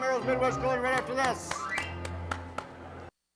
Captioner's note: claps